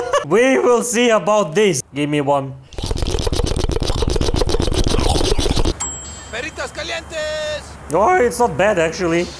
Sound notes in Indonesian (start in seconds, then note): 2.7 intense eat noice